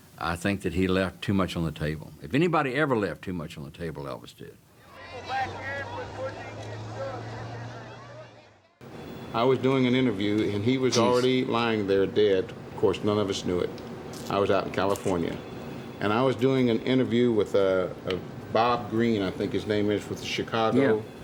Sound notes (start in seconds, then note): 4.8 crowds talking